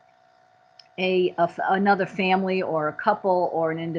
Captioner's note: tongue clicks